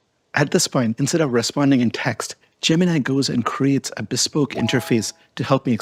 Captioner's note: bells chime